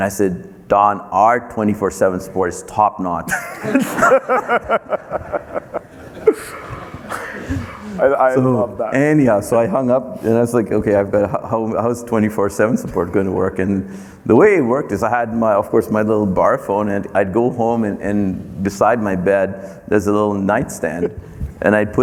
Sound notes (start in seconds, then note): 3.3 everyone laughing